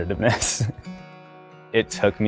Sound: chuckles

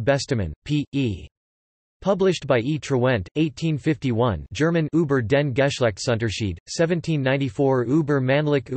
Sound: German

